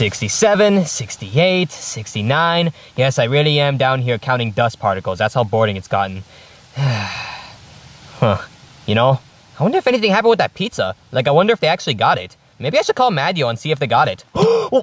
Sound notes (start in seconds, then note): 6.3 sighs; 14.3 gasps